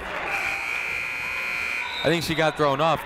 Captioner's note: buzzer ringing